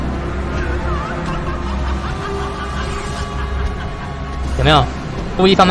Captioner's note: Mommy Long Legs's magical laughter